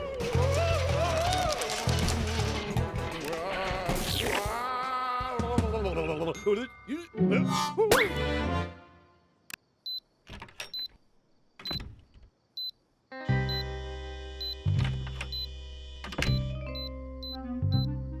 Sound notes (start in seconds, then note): 4.3 ghostly moaning; 5.8 grumbles; 9.0 beeping